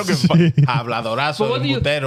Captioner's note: speaking In Foreign Language